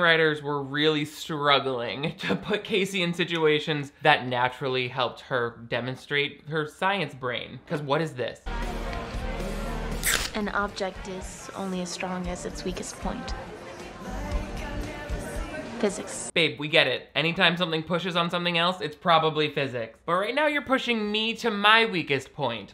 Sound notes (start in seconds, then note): 8.5 dance music in background; 10.0 can fizzing